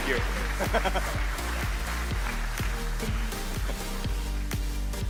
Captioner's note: audience applauds